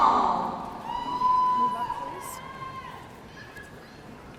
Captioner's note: audience cheering